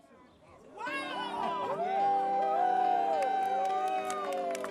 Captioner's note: crowd cheering